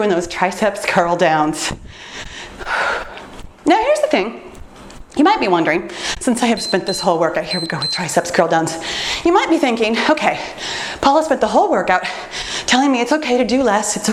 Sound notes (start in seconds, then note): 6.4 timer beeps